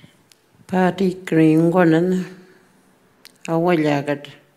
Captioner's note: speaking Anmatyerr